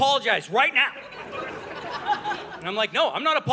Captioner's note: audience laughing